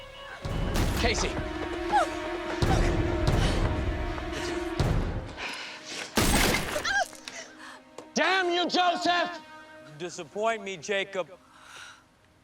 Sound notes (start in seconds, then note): 1.8 Kaycee groaning; 6.2 gunshot; 6.2 screams